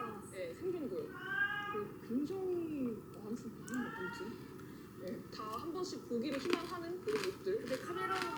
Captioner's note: Song-i is meowing while playing hide-and-seek with Aong-i